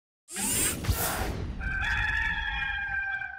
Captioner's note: mechanical whirring; rooster crowing